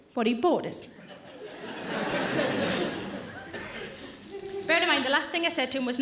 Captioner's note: audience laughing